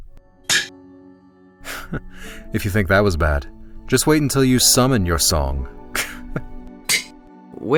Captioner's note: single chuckle